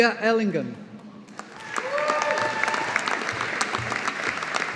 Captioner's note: audience applauding